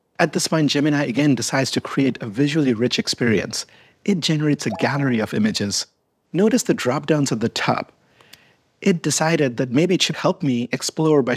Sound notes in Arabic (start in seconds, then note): 4.0 رنين أجراس